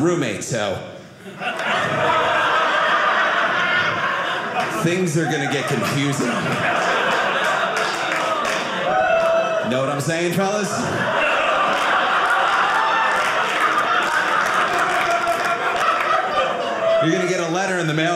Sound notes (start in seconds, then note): 6.5 audience laughing; 10.5 audience laughing